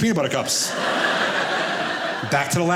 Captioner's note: audience laughing